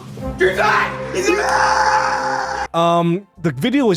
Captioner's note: crowd cheering